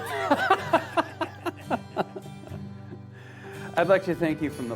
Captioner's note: both laughing